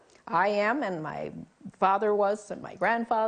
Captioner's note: voiceover